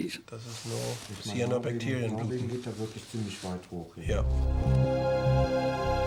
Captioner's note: both speaking German; suspenseful music